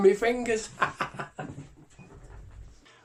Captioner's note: laughs